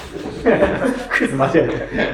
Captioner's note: laughing